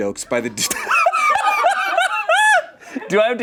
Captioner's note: laughs